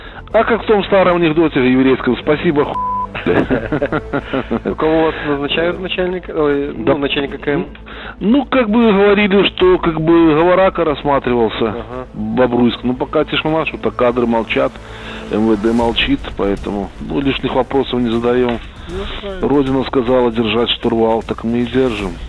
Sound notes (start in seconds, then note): 3.1 laughs